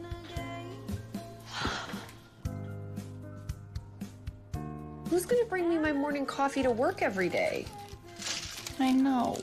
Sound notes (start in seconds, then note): 1.5 exhales sharply